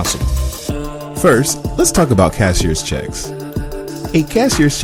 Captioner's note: voiceover